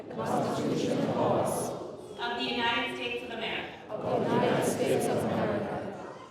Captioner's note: crowd repeating after judge; crowd repeating after judge